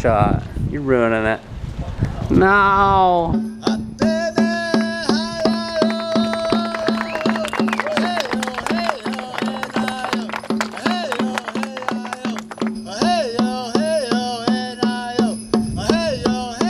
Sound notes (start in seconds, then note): 4.2 drum music; 5.4 applause